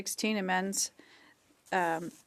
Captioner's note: speaking French